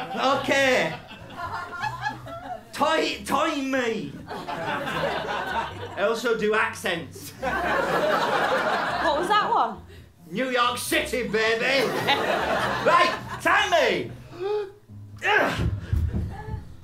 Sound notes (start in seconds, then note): 2.7 offensive approximation of irish; 7.2 laughter; 15.2 big grunt